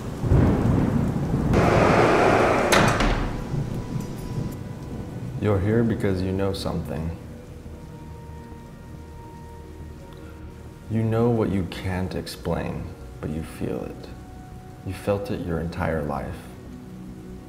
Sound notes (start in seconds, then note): 1.5 door closing